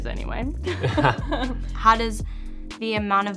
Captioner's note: both laugh